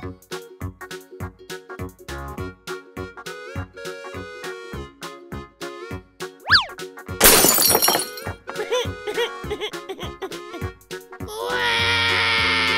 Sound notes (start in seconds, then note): 7.2 crashes; 8.7 cries